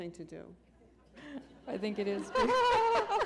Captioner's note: laughter